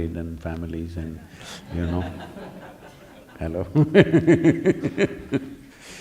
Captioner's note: laughter